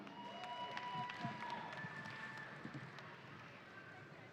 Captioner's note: audience cheering